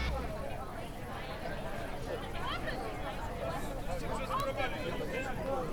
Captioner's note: background people chattering